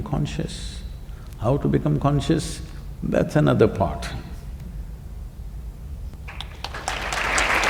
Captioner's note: applause